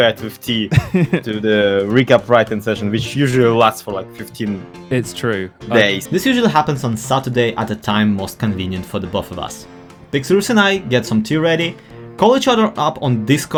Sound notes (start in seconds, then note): 0.6 more british giggling